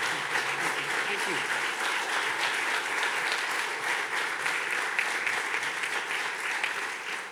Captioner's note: audience continues clapping